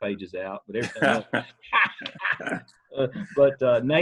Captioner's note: laughter